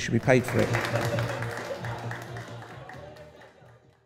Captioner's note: applause